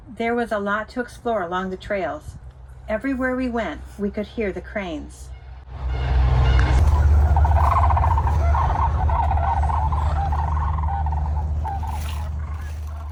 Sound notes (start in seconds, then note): 6.6 cranes whooping